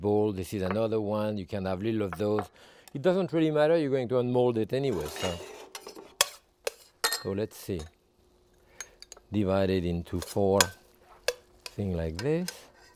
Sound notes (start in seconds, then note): 4.8 pan scraping; 5.2 spoon tapping